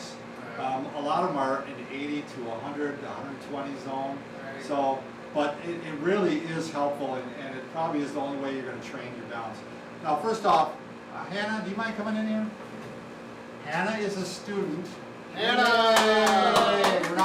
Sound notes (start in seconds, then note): 15.3 cheering; 15.4 all applauding